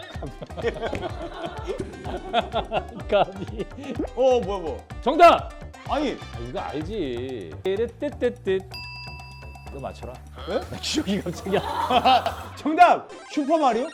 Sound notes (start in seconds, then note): 10.5 wah